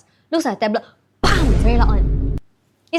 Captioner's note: bam